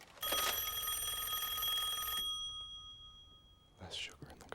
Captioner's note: rings